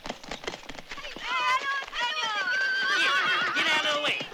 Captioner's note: children shouting, horses neighing